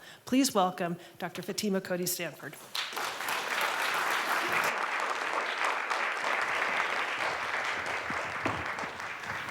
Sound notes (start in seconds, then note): 2.7 applause